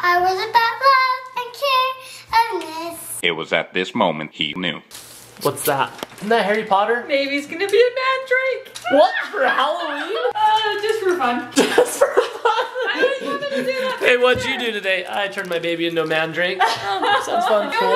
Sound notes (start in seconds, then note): 3.4 Robotic voice; 11.5 laughing